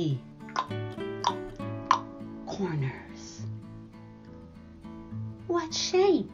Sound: clicks tongue three times

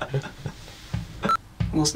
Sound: laughter

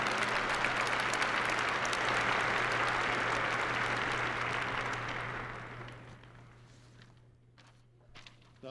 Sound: applause

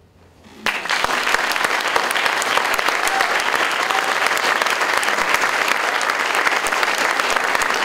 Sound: audience Applause

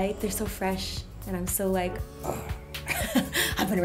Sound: growls

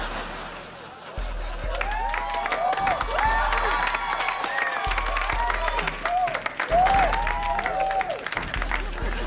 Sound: cheering, applauding

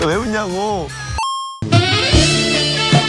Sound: arcade game coin noise

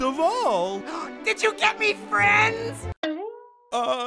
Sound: gasps

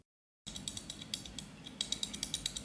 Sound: clicking buttons

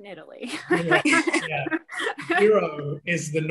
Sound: laughs

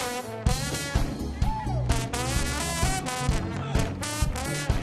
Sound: trombone blatting; man cheers

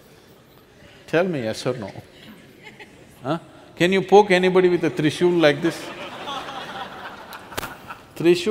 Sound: laughter

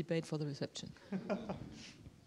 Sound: laughter

